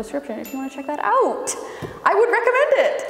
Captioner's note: bell dinging